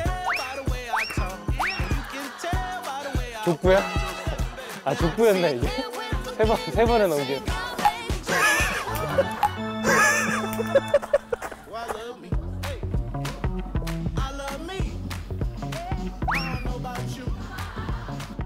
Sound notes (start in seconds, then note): 7.8 pong